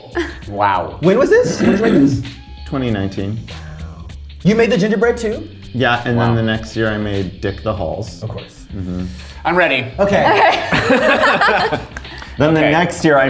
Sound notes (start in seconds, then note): 10.2 all laughing